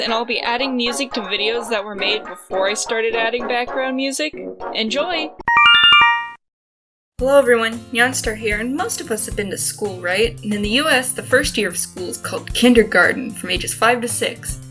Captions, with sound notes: and I’ll be adding music to videos that were made before I started adding background music. Enjoy! *Yume Nikki instructions sound* Hello everyone! Nyanstar here and most of us have been to school right? And in the US the first year of school is called kindergarten, from ages 5 to 6.